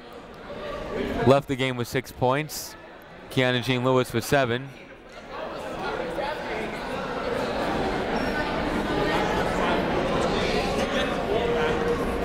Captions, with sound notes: left the game with six points, Keyanna Jean-Louis with seven. (people talking in the crowd)